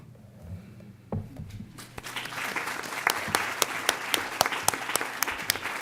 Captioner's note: applause